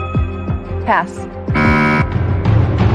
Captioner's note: buzzer sounds